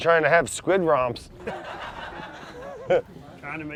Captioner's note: recorded laughter; laughs